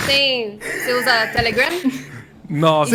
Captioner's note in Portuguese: Risos